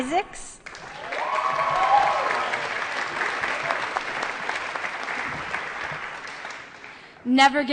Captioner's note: applause & Cheering